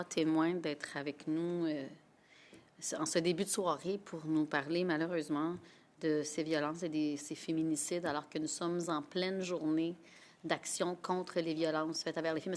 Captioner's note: speaking French